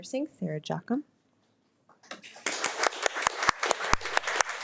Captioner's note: audience applauding